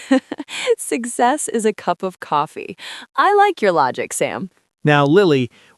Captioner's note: laughs